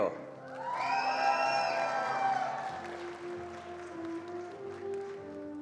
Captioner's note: attendees applauding